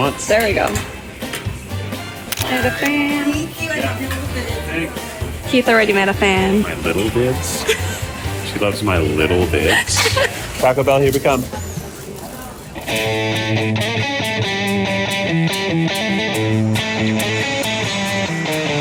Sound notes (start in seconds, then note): 9.3 laughs; 12.8 guitar music